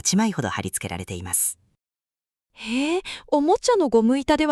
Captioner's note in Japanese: 息をのむ音